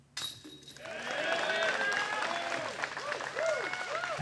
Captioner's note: cheering